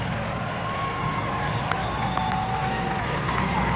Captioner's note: cheers